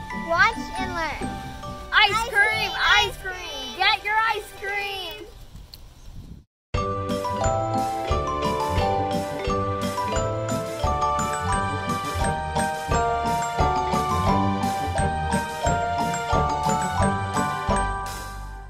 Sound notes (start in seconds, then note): 2.2 calling out